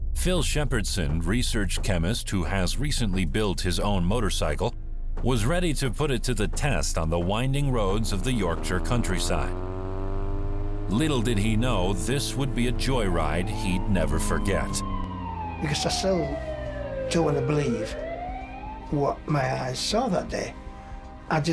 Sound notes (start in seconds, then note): 9.7 engine revving; 14.7 siren wailing